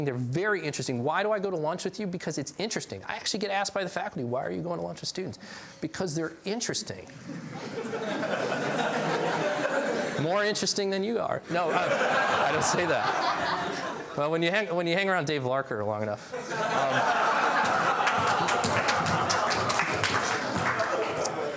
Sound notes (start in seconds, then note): 9.2 laughs; 11.6 laughs